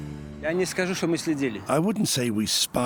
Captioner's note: speaking German